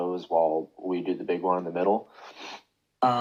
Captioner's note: sniffles